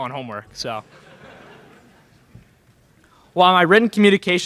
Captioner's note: laughter in crowd